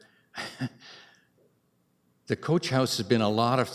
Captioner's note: chuckles